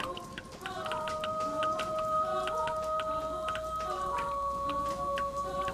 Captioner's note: electrical buzzing